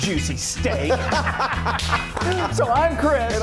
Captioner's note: loud laughing